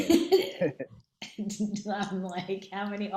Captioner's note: laughing